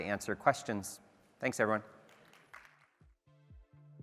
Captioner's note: applause